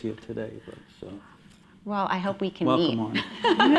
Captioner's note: laughing